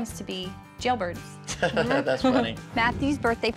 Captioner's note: laughs